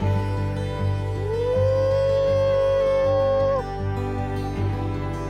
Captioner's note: hooting